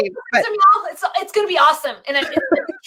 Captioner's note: laughing